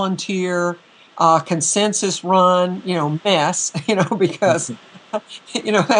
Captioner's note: laughter